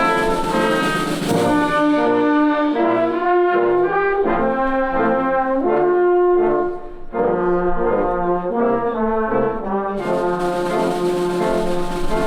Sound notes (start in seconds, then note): none